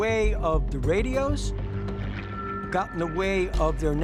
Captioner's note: buzzing